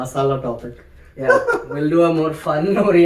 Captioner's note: laughs